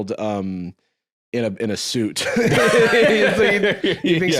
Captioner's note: both laugh